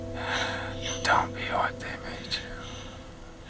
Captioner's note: whispers